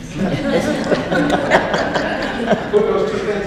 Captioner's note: audience laughs